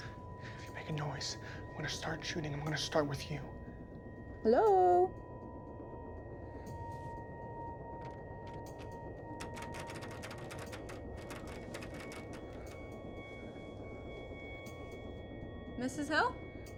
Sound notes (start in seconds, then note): 5.5 ominous music; 9.4 door knob rattles; 12.2 ominous music continues